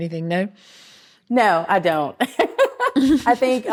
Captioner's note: laughs